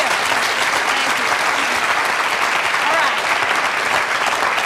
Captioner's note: audience applause